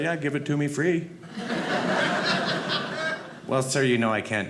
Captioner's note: audience laughing